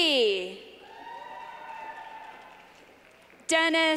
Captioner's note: clapping